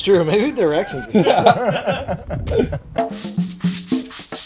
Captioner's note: laughter; Latin music